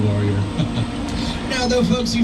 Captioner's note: laughing